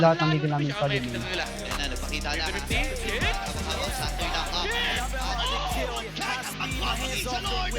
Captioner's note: shoutcasters in the background